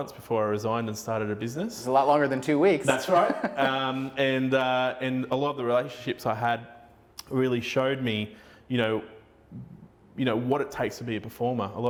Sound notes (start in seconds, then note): 2.8 laughing